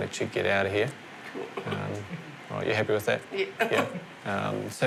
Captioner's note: laughs